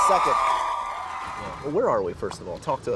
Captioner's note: audience applauds